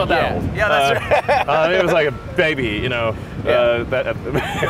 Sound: laughs

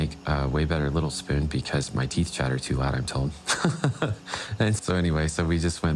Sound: chuckling

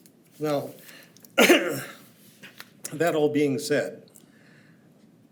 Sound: clears throat

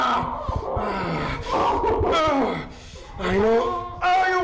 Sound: grunts; Linda sobs hysterically

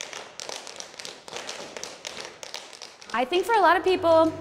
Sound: tapping

